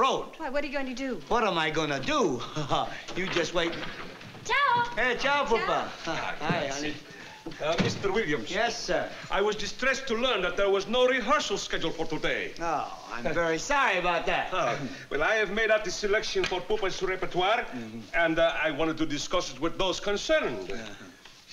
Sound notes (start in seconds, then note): 3.9 italian